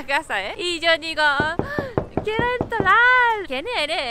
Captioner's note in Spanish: toc, toc, toc